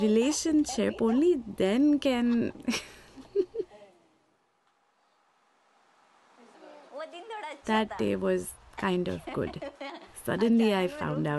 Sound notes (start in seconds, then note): 0.0 laughter; 3.6 laughter; 5.2 through translator